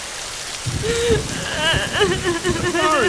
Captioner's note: Akari crying